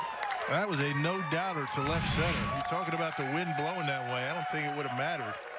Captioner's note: cheering